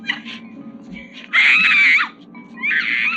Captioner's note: screaming